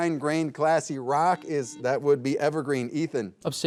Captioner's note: buzzer buzzing